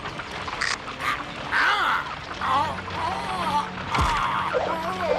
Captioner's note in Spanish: grita